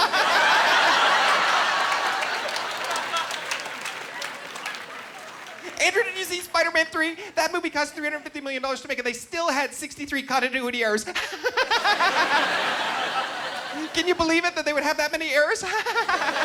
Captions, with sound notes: (Laughing) "Andrew, did you see Spiderman 3? "That movie cost $350 million to make "and they still had 63 continuity errors. (Laughing) "Can you believe it that they would have that many errors?